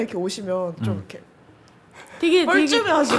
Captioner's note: hesitant